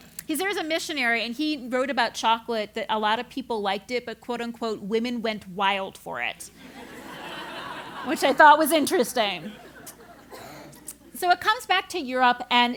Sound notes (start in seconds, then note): 6.6 laugh